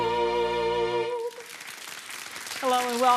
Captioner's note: audience applauding